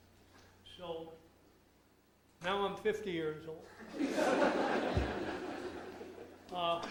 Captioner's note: audience laughs